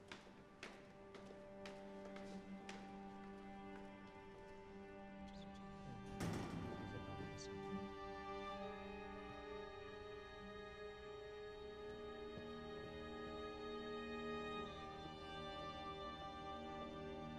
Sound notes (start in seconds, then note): 0.3 somber music; 5.7 indistinct chatter; 6.1 door opens